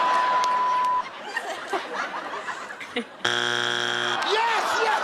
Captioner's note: laughter